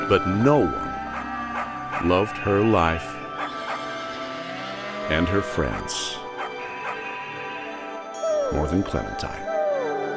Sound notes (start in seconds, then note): 3.4 cattle moos; 3.5 horse neighs; 6.4 sheep bleats; 6.8 Clementine barking